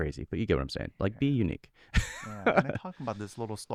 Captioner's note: laughs